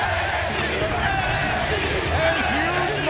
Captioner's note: fans chanting